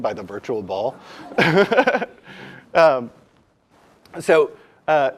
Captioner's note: laugh